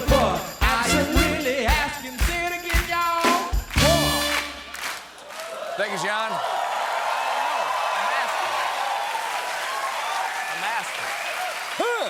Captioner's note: cheers and applause